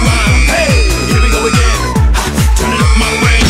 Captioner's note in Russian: визг турели